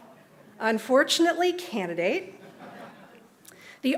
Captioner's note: laughter